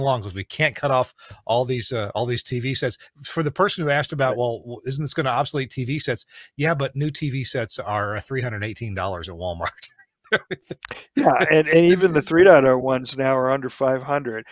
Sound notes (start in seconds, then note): 10.3 laughing